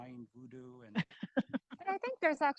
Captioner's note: chuckling